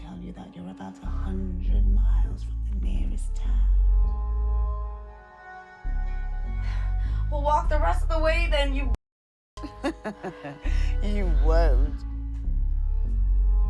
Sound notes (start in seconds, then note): 4.2 dramatic music; 9.6 Miss. Fang laughing